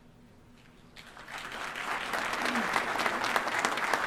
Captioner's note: applause